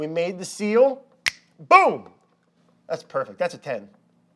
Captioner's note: fingers snapping